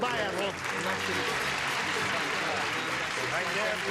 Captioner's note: clapping